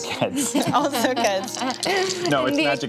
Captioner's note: laughs